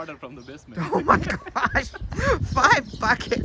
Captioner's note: both laughing